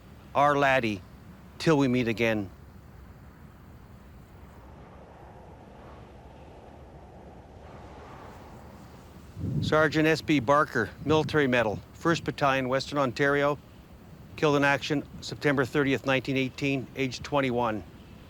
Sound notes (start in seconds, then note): 4.0 wind blowing